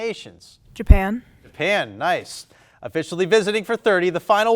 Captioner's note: none